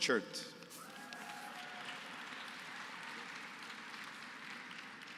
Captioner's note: applause